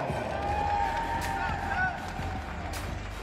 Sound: crowd cheers; dramatic music

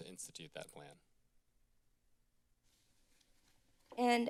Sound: silence

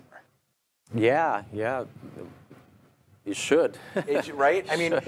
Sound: laughs

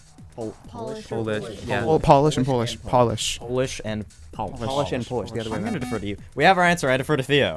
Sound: wispering

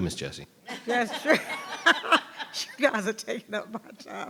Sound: members laughs

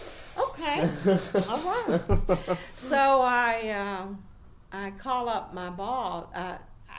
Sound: laughing by now; starts laughing

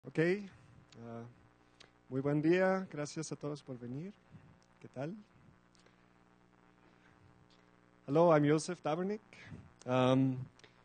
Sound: Spanish

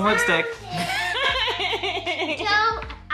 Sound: laughing

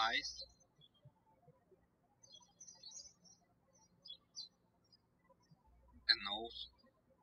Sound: birds chirping

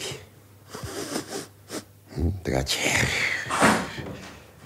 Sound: sniffing

